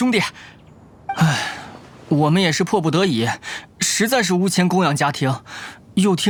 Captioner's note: sigh